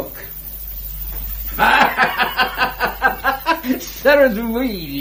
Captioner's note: laughs